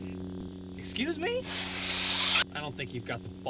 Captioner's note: blade retracts